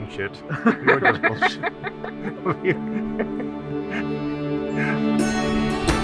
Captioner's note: all laugh